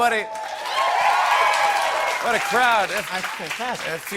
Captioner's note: cheers and applause